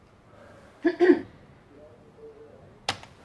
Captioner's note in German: räusper